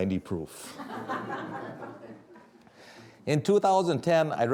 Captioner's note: audience laughing